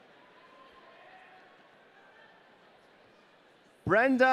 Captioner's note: audience cheering